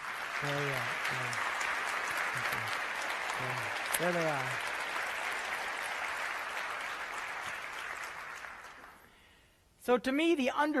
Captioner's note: applause